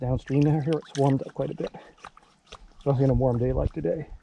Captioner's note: water splashing